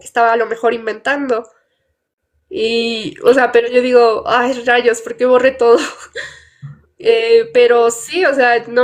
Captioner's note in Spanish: risas